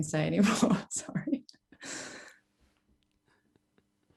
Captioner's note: laughs